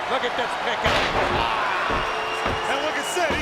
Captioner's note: Vicious slams